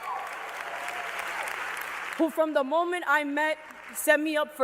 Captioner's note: cheers and applause